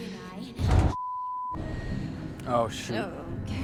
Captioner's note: beep